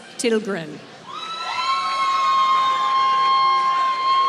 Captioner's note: applause